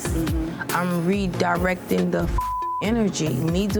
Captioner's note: beep